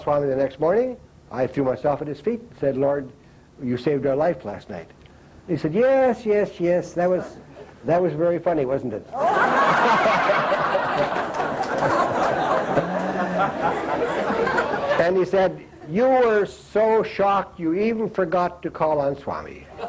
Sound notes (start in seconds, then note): 9.1 laughter